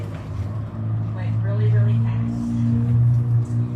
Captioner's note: car accelerates in background